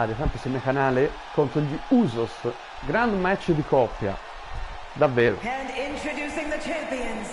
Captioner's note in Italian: Applauso